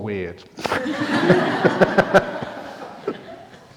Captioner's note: laughter